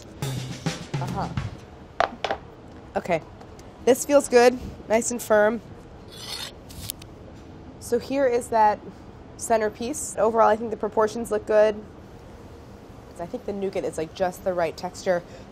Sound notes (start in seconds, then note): 0.2 uptempo music; 6.1 blade slicing